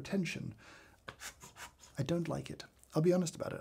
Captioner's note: bellows swoosh air